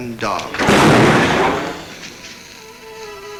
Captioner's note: gun bangs